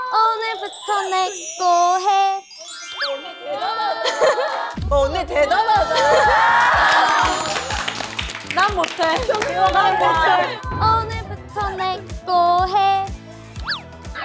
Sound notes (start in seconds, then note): 6.5 applause for leader's aegyo